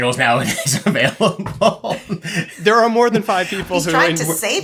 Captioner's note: laughs